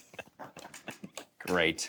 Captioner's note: chuckles